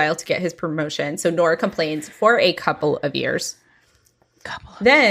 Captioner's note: whispering